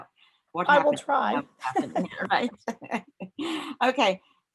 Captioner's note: both laugh